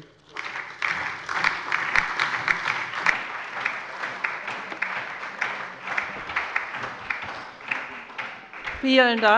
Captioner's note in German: Allgemeiner Beifall